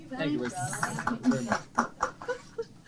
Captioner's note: applause